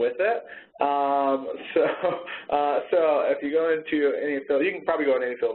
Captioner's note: laughs